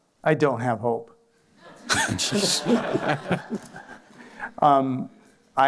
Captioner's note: laughter